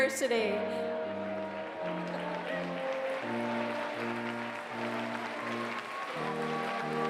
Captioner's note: applause